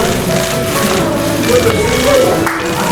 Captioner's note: cameras clicking